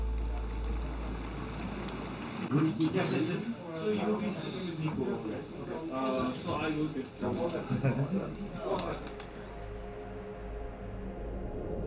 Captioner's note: babble of voices